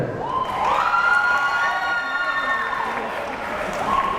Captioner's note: crowd cheering